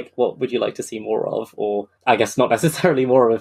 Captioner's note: laughing